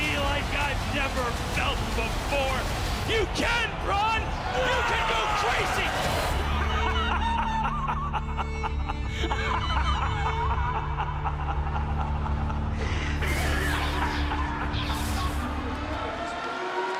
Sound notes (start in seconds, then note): 6.2 laughs